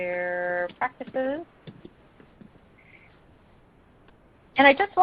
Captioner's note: silence